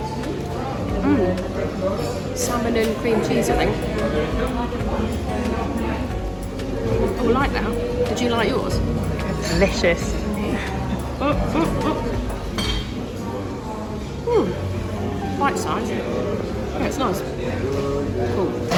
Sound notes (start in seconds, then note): 11.1 vocalizes